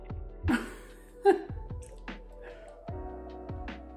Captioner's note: laughs